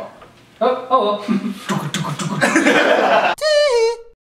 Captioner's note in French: imitant un hélicoptère